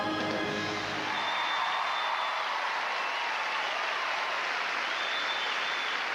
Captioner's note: applause